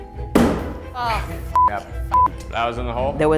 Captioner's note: beep